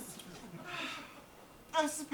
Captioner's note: audience laughs